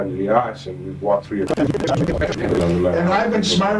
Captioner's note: scene rattling